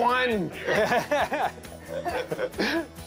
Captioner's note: laughing